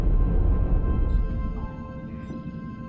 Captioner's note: alarm